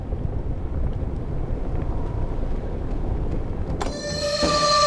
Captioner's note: water bubbling